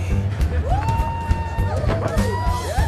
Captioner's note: audience whooping